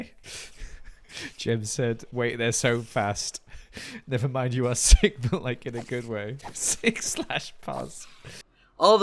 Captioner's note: laughing